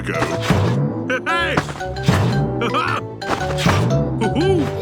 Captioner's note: laughs